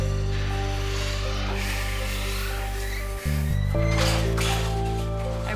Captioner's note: cart rattles